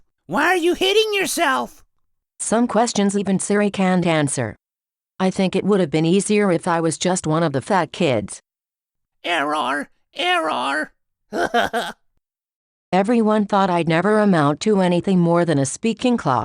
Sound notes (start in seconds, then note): 9.0 robot voice